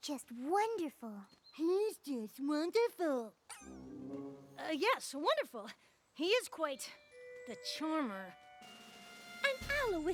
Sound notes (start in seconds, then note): 2.0 mockingly; 3.5 poink!